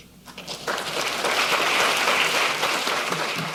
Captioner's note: applause